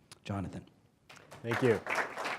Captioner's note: applause